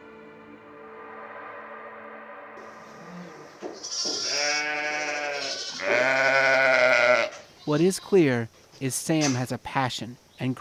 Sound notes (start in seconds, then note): 0.0 suspenseful music; 3.7 sheep baaing